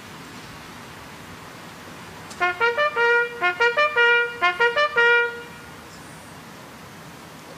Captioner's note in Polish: Sygnał "Baczność"